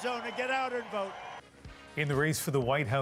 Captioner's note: applause